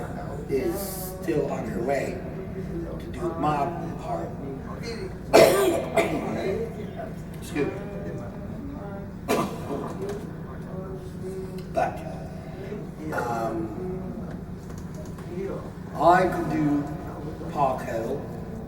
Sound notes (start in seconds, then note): 5.2 cough-cough!!; 9.0 cough!